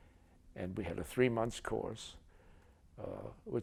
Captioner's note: none